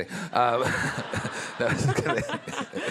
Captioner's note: all laughing